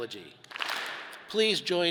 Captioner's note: all clap